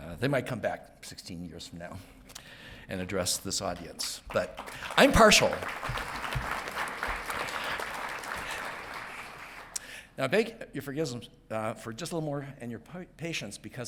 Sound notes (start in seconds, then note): 5.7 audience clapping